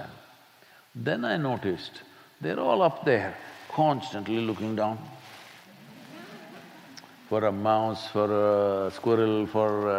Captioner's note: few laugh